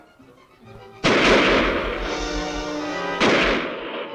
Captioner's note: guns firing